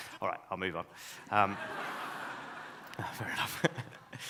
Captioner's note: audience laughs